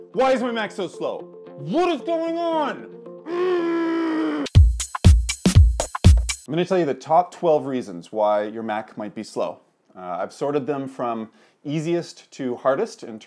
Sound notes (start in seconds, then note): 3.2 groaning; 4.5 upbeat club music